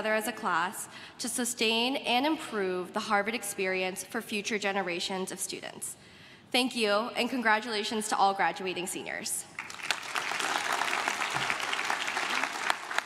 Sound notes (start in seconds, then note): 9.5 crowd claps